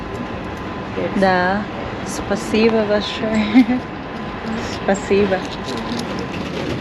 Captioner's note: in Russian